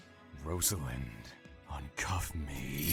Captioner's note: handcuffs click closed